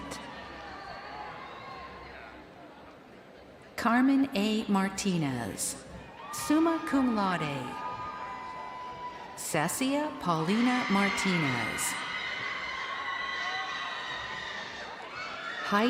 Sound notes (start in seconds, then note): 7.2 crowd cheering